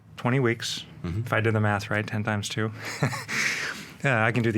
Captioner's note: laughs